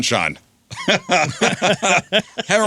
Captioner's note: laughing